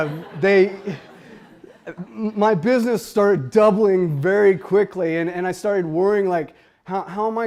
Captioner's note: laughter